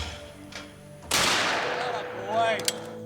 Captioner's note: shot banging